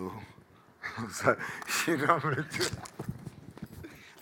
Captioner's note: laughing